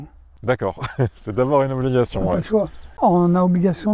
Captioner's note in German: lacht